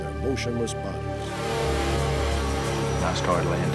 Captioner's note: horn honking